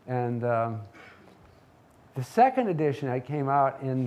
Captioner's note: none